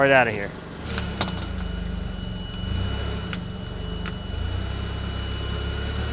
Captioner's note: fork truck motor humming